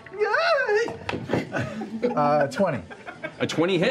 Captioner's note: yelps